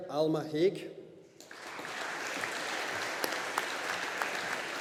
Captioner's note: audience applauding